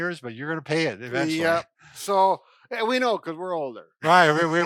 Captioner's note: laughs